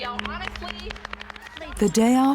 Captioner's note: applause